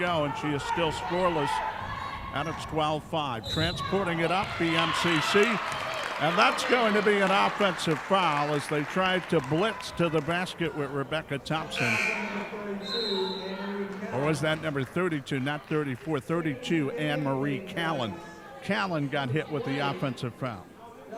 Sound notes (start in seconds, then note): 11.8 buzzer sounding; 12.7 referee whistling